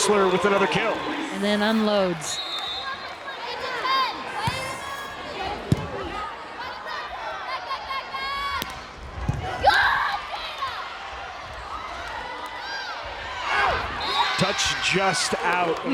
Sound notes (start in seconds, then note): 2.2 whistle blows; 3.0 players yelling